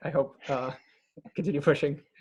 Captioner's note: laughs